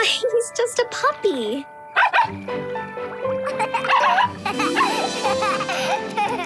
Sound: laughing; barking

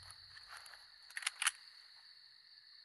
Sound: gun cocks

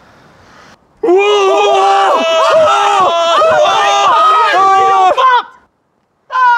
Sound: screams hysterically

